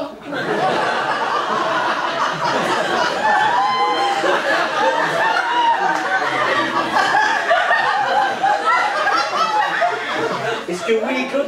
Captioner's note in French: rires public